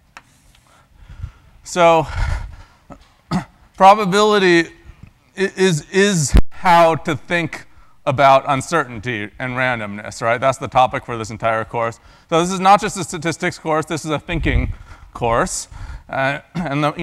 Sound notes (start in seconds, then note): 3.2 cough